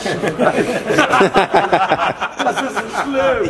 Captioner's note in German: Gelächter